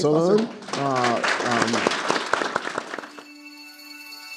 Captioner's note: audience applauding; calm music